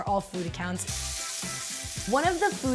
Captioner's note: quirky music; turkey sizzling